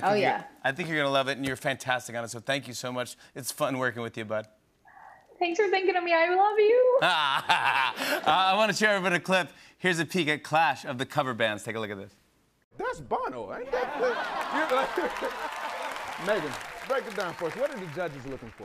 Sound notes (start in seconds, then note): 7.0 laughter; 13.7 laughter and applause